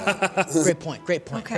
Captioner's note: laughter